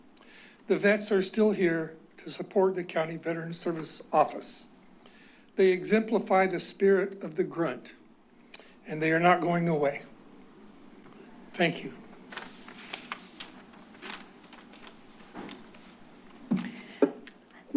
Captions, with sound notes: The vets are still here to support the County Veterans Service Office. They exemplify the spirit of the grunt and they are not going away. Thank you. [paper rustles]